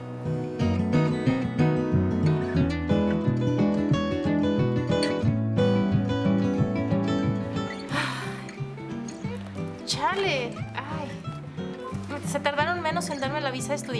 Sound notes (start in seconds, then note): 0.3 western Music; 7.8 sigh; 9.2 speaking Spanish